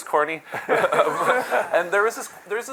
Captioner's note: laughter